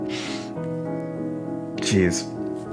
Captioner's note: chuckle